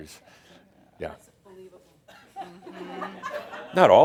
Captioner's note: some chuckles